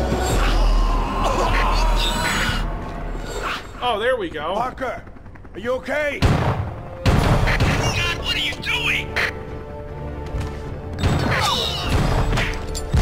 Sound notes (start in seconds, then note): 6.9 gunshots